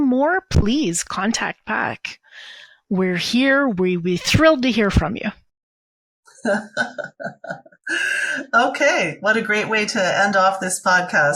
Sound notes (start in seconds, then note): 6.3 laughing